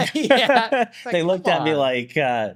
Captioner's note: both laughing